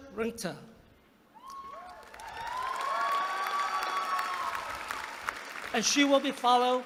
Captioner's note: applause